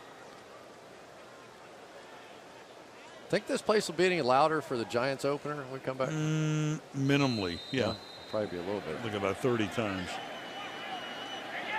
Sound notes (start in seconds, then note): 5.8 players shouting